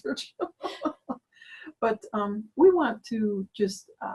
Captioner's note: laughs